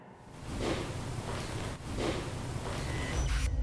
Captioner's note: object taps